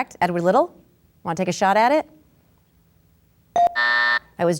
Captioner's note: bell dings